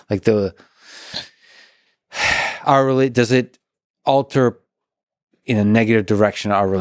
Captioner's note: sighs